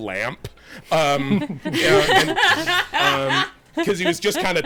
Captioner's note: everyone laughing